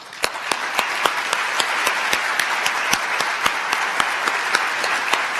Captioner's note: applause